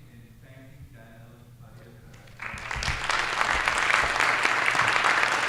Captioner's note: applause